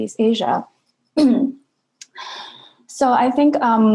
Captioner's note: clears throat